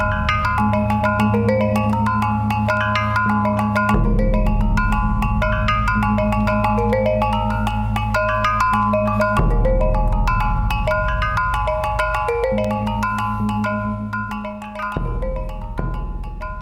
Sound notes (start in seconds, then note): none